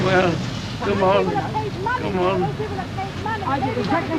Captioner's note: couple muttering